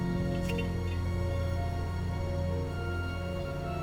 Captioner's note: lamp rattles